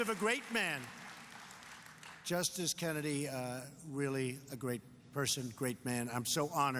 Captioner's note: applause